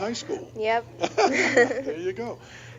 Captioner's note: laughing